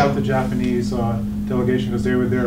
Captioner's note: jumbled chattering